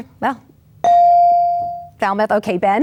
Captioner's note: bell dings